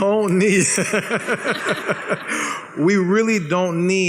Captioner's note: laughs